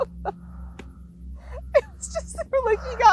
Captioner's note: laughs